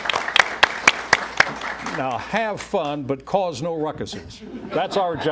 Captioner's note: applause